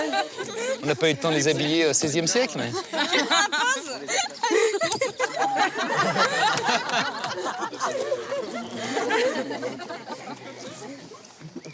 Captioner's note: laughs